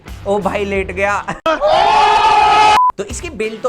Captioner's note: ohhh!!!